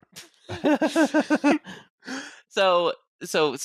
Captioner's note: laughter